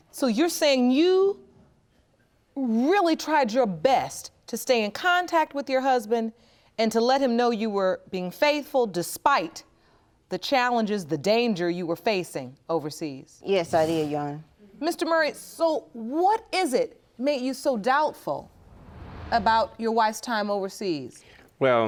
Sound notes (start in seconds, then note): none